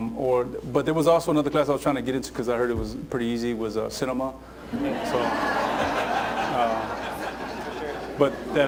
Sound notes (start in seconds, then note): 4.7 laughter